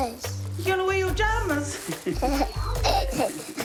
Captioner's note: laughs